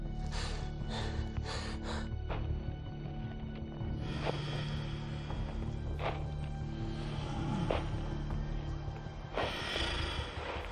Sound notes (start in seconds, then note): 3.6 heavy footsteps; 9.2 heavy breathing